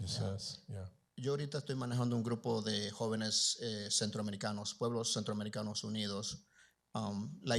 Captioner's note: Spanish language